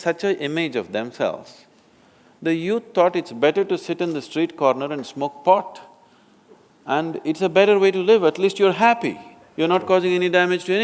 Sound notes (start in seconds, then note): none